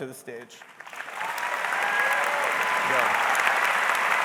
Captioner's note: audience applauds; audience cheers